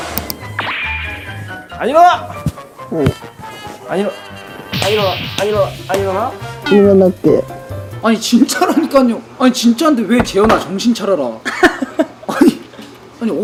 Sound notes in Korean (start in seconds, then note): 11.6 웃음